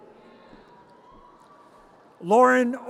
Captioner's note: audience cheers